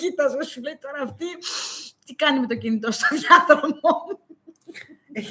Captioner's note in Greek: γέλια